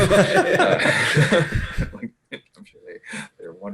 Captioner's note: all laughing